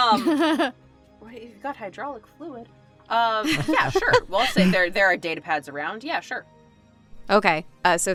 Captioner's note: laughs